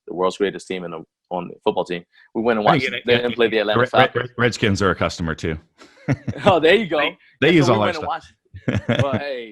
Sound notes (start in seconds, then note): 5.8 laughs